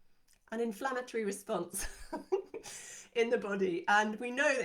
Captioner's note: chuckles